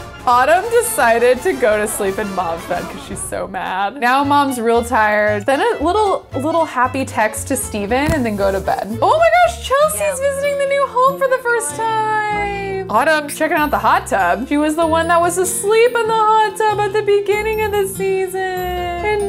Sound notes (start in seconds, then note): none